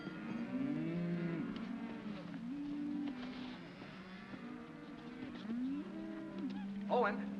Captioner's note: cattle moo